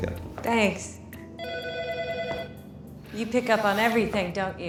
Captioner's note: telephone ringing